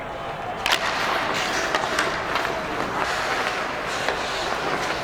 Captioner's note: hockey puck clanking